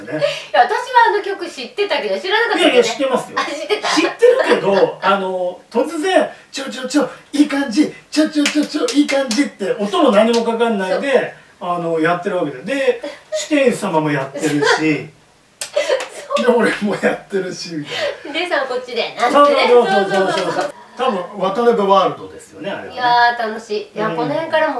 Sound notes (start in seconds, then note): 15.6 laughs